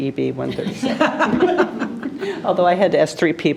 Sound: group laughing

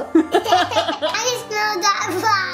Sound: laughing

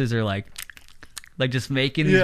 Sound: lips smacking

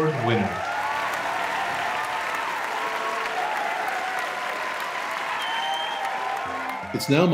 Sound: applause

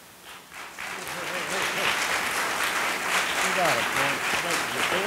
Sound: audience applauding

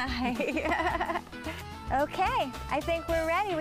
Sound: laughs

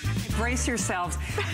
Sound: laughter

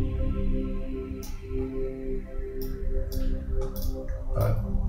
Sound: mouse clicking

